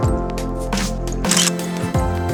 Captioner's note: photo click